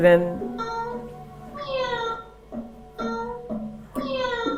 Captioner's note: bot meowing